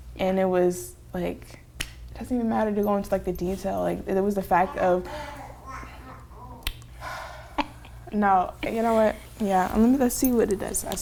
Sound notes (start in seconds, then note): 4.5 baby coos